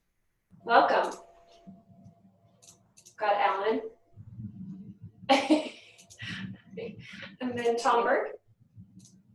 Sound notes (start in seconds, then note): 5.3 laughter